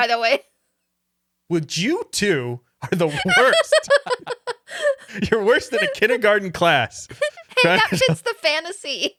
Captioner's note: laughing